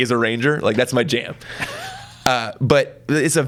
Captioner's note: laughs